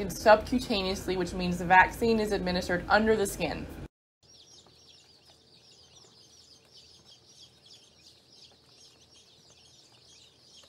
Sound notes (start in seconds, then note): 4.2 day-old chicks chirping